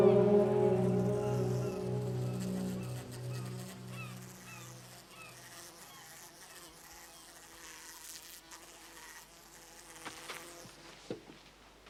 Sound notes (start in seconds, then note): 1.6 fly buzzes